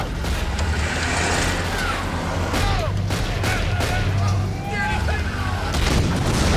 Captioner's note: engine revving; gunshots popping; explosion booms